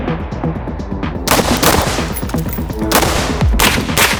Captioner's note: gun firing